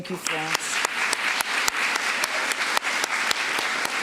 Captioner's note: applause